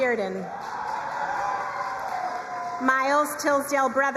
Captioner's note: crowd cheering and applauding